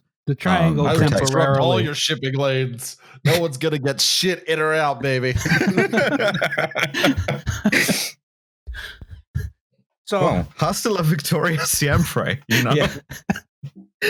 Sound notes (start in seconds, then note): 5.2 laughter